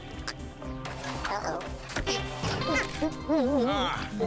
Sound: grunting; grunting in satisfaction

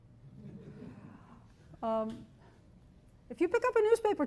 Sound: chuckling

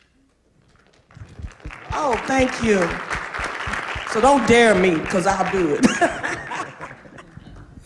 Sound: applause; laughter

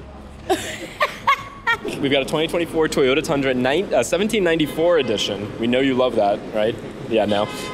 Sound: laughing

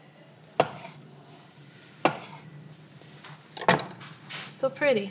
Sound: chopping

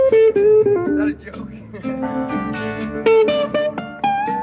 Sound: chuckles

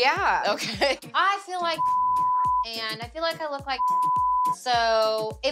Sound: beep

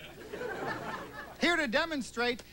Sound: laughter

